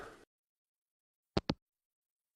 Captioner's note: hangup